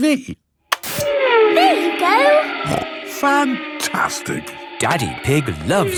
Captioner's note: snorting